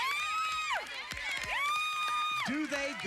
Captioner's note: cheering